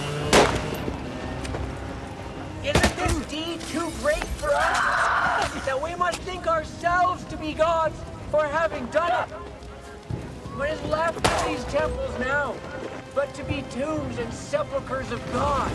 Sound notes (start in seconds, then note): 4.4 screaming